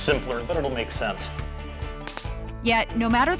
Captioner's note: whip crack